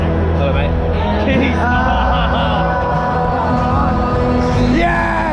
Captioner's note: laughing